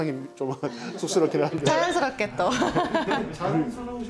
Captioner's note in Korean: 웃음